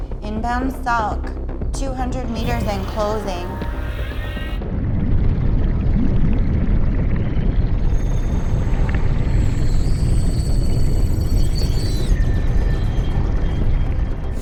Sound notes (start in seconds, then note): 5.1 subs rumbling